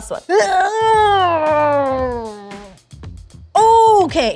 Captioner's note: grunts